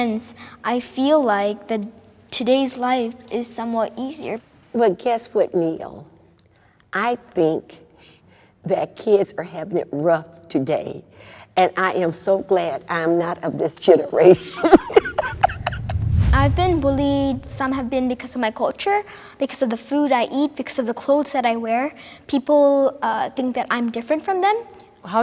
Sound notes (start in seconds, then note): 14.4 laughs